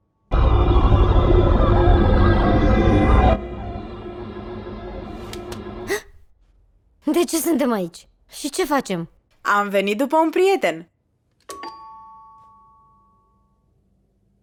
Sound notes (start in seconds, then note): 0.3 unsettling musical sting; 5.8 gasps; 11.6 doorbell rings